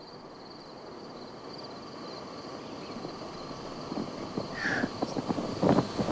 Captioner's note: crickets chirping; wind blowing; birds chirping